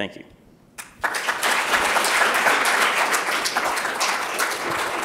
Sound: applause

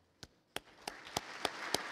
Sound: applause

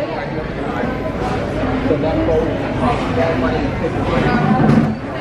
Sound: guests chattering indistinctly; chairs grating

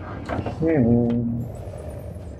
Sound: humming

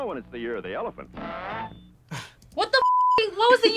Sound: laughs

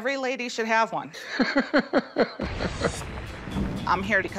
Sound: laughs

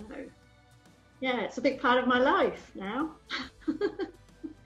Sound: chuckles

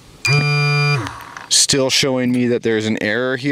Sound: beeping

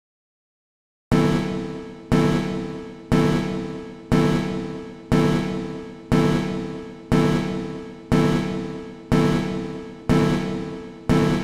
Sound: sound of spaceship alarm

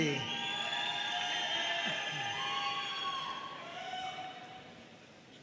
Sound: audience cheering and applauding

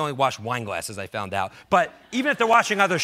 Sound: audience laughs

